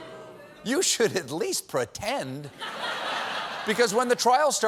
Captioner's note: laughter; audience reacts